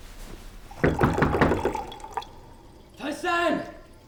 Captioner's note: knocking